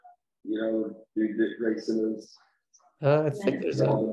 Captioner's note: participants murmur